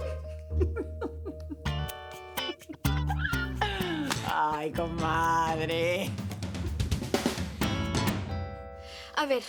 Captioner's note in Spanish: Risas